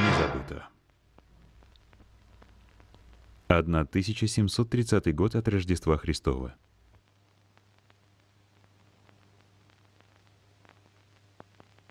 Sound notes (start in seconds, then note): 0.9 static crackling